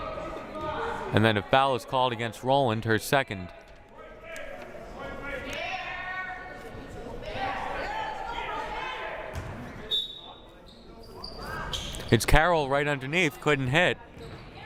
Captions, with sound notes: And then, a foul is called against Rolland, her second. (crowd murmuring) (whistle blaring) It's Carroll right underneath, couldn't hit.